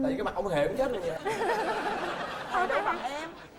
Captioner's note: laughing